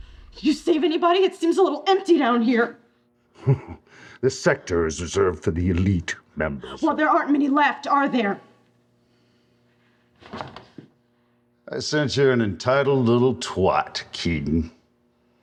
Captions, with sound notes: Did you save anybody? It seems a little empty down here. [snickers] -This sector is reserved for the elite members- -Well there aren't many left are there? I sense you're an entitled little twat, Keaton.